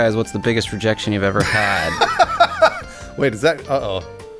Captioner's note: laughs